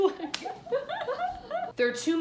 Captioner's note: laughing